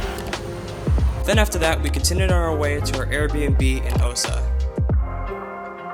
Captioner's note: voiceover